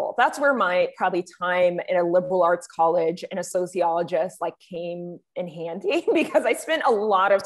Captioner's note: chuckles